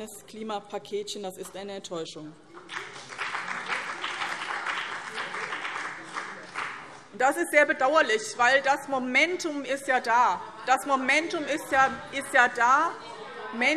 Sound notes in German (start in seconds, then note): 2.6 Beifall